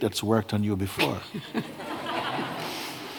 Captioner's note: laughter